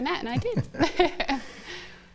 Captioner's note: laughter